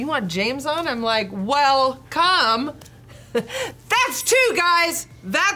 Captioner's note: chuckles